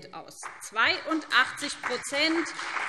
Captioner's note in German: Beifall BÜNDNIS 90/DIE GRÜNEN und CDU